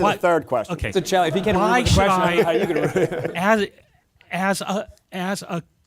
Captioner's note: laughter and interposing voices